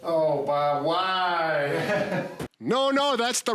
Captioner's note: laughs